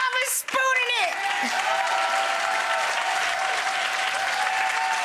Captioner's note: audience cheering